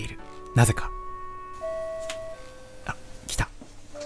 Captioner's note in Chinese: 叮咚